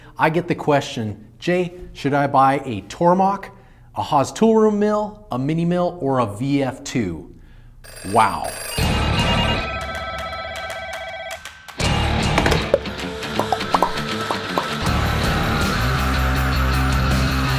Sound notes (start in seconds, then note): 7.8 phone ringing; 11.8 upbeat music